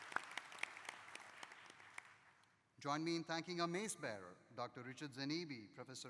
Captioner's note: applause